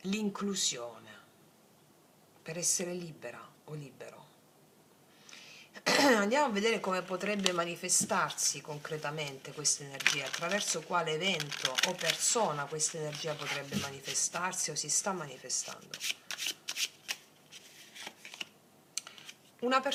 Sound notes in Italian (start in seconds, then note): 6.5 schiarire la voce